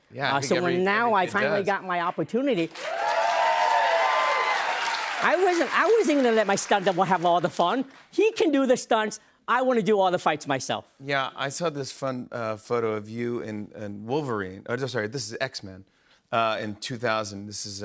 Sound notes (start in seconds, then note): 2.6 cheers and applause